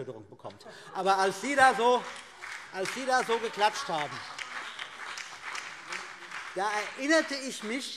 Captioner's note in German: Heiterkeit und Beifall CDU und BÜNDNIS 90/DIE GRÜNEN